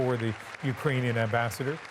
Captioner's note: applause